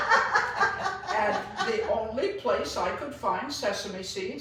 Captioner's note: laughs